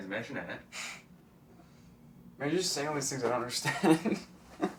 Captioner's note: laughs